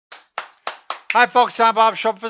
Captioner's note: clapping